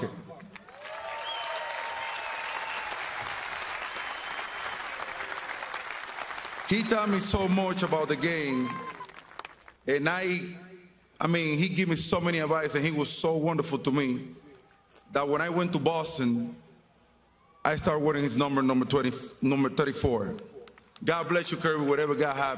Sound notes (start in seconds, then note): 4.7 applause